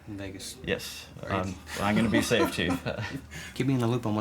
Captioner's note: laughing